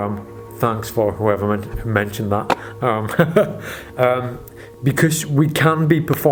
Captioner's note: laughs